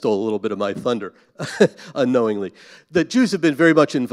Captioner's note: chuckles